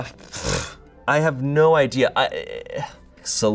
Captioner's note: blows raspberry